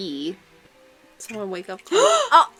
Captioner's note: horrified gasp